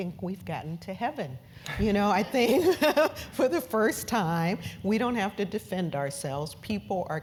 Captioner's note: laugh